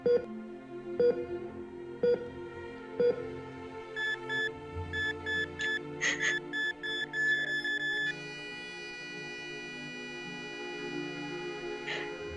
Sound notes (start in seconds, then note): 0.9 heart monitor beeping